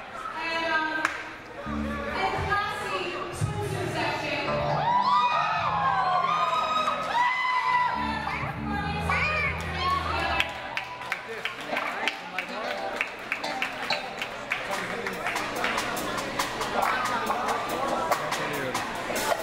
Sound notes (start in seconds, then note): 4.5 audience cheers; 11.2 audience applauds